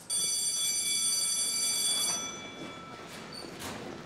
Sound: bell ringing

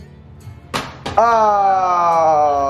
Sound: bottle bangs

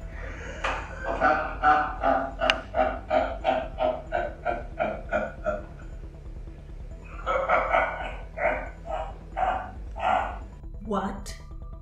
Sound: laughs

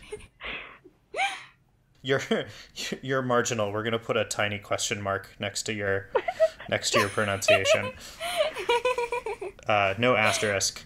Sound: laugh

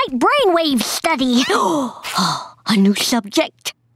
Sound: gasping

